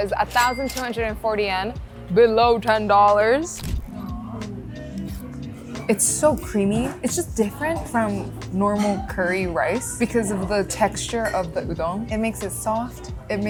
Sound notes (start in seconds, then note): 0.4 chime ringing; 3.7 camera clicking